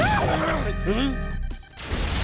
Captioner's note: whimpers